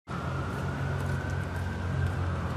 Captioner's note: sirens